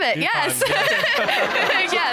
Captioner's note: audience laughing; chuckles